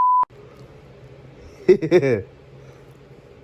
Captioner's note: Ella giggles